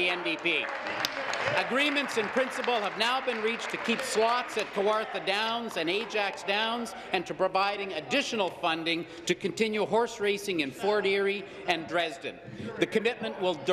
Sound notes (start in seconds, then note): 4.4 applause